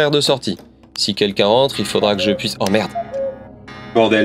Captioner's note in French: bruit de coucou